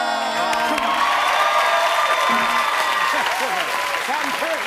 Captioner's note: cheers and applause